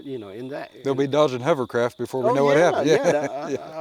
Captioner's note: laughs